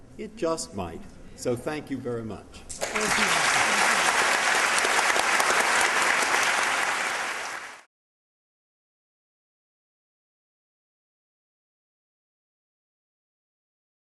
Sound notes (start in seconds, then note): 2.8 applause